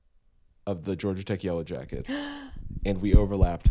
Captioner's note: gasps